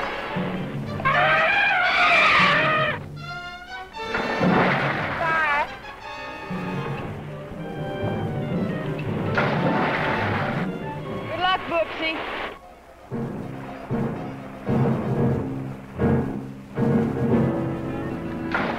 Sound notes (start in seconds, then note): 0.1 trumpeting; 9.3 water splashing; 12.6 intense instrumental music